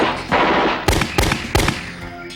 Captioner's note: gun fires